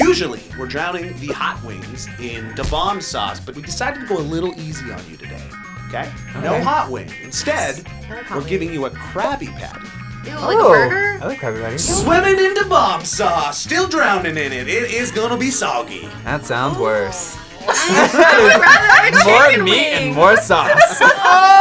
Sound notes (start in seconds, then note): 17.6 all laughing